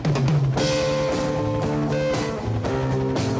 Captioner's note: helicopter landing